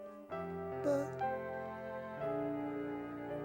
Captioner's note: whispering